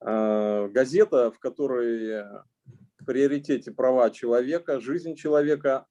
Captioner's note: speaking Russian language